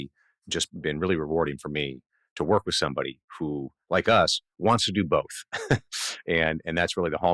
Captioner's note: laughs